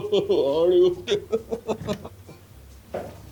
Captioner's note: continues laughing